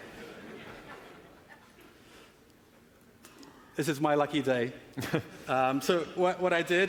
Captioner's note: laughing